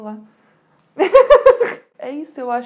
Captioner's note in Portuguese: risos